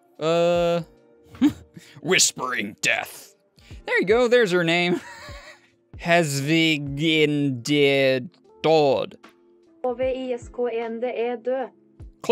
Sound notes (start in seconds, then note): 5.0 laughs